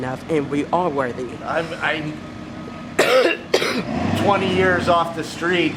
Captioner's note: coughing